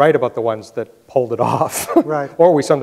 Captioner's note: laughs